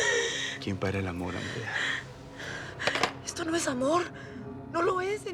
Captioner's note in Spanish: Sollozos